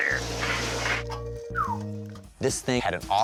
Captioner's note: whistles